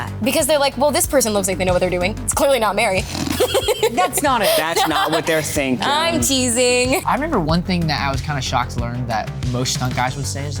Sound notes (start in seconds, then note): 3.1 Mary laughs; 3.2 Xolo snorts